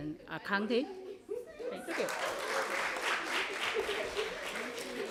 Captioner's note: applause